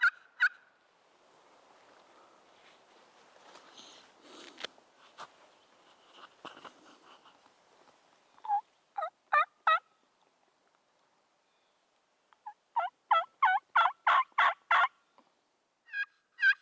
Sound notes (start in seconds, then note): 0.0 turkey calling ends; 3.7 light rustling; 9.3 turkey calling